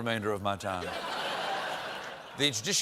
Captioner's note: laughter